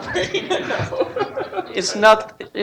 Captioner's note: laughter